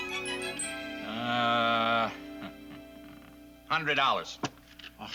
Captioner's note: Don groans